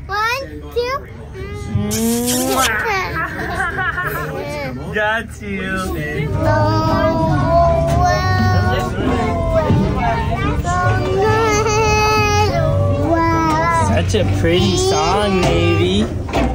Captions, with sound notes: One, two... (lips smooching) - That's a pretty song Navey.